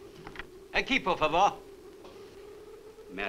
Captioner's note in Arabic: مارلو يتحدث الاسبانية